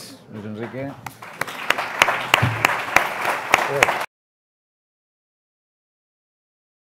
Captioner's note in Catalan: Aplaudiment